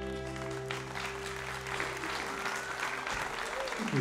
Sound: applauding

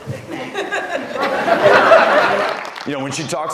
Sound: laughter

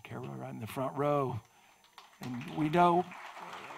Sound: audience applauding

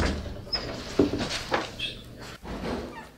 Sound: door Opens

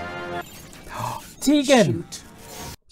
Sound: gasp

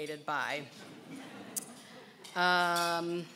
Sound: laughing

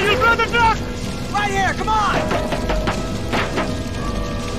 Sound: metal banging

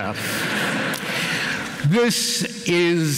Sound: laughter

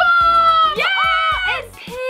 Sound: screaming

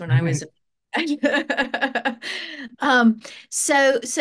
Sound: both laugh

